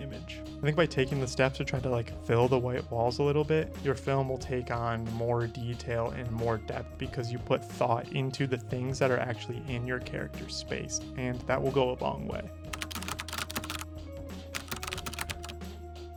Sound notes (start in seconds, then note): 14.5 keyboard clacking